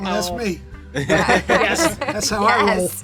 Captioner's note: group laughs; laughs